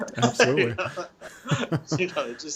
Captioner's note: chuckling